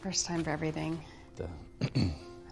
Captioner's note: clears throat